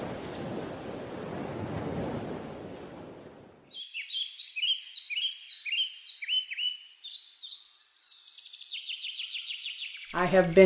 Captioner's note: birds Chirping